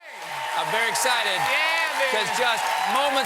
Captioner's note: cheers and applause